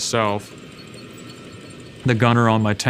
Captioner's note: tank engine roaring